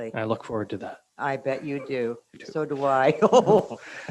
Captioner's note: laughing